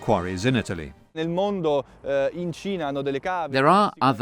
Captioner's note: speaking in foreign language